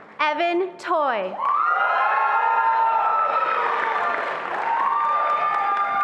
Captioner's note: attendees applauding and cheering